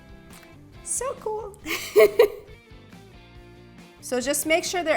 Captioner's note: laughs